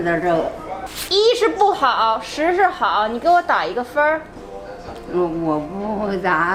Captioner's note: speaking Chinese; grandma speaking Chinese